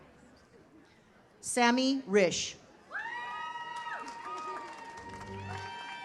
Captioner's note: audience cheers